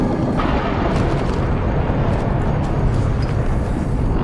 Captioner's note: thunder clapping